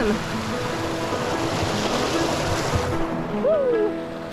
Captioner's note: water rushing